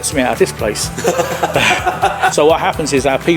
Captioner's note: both laughing